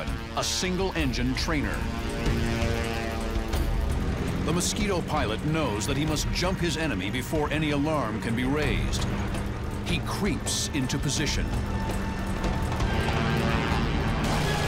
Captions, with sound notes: a single-engine trainer. [propeller buzzing] The Mosquito pilot knows that he must jump his enemy before any alarm can be raised. He creeps into position.